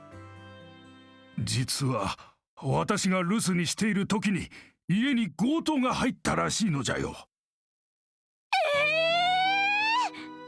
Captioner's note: gasps